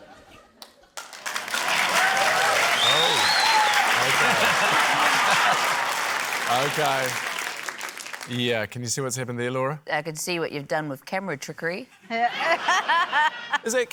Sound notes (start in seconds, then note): 1.0 cheering, applause; 12.0 laughter